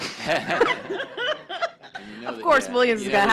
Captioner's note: laughter